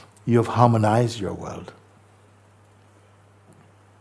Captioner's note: none